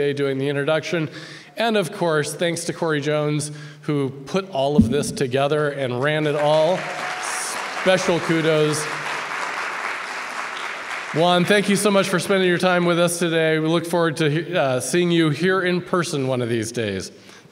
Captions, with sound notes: doing the introduction. And of course, thanks to Cori Jones, who put all of this together and ran it all. (audience applauds) Special kudos. (applause continues) Juan, thank you so much for spending your time with us today. We look forward to seeing you here in person one of these days.